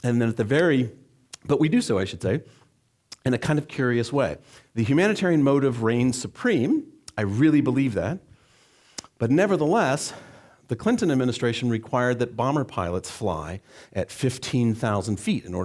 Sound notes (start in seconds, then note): none